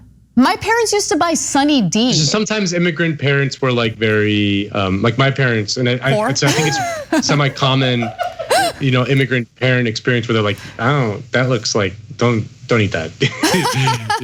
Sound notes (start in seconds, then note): 6.1 laugh; 13.4 laugh